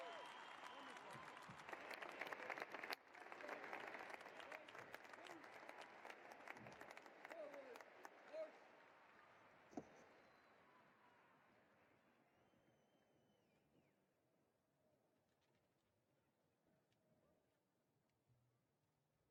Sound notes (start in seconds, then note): 2.6 cheering and applause